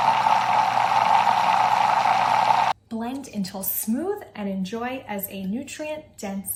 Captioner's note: whir